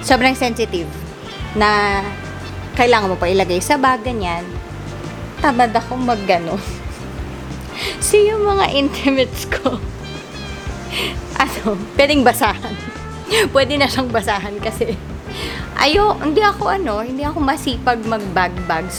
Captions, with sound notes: Sobrang sensitive Na kailangan mo pa ilagay sa bag, ganyan Tamad ako magganon [laugh] so, yung mga intimates ko [laugh] pwedeng basahan! Pwede na siyang basahan kasi hindi ako masipag mag-bag-bag